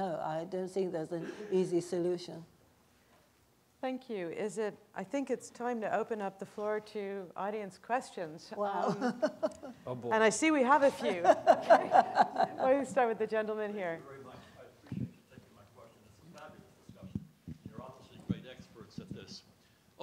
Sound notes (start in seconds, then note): 10.7 laughing; 14.5 audience member speaking quietly